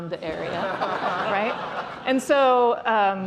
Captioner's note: laughter